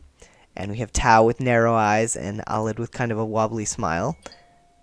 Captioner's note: phone chimes